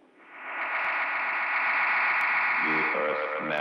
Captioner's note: magnetic humming